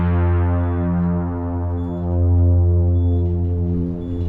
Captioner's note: distant beeping